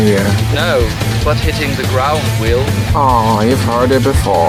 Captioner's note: unenthusiatically; unenthusiastically